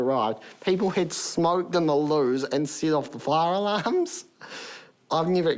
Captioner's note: laughs